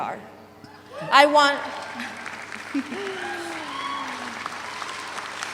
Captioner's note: audience applauds; chuckles